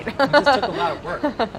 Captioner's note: laughing